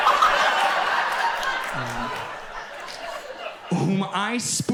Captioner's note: audience laughs